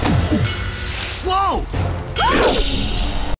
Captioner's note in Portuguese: Grito. Cabos esticando